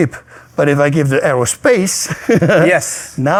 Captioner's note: laughs